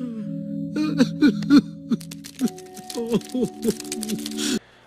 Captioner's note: Bing Bong cries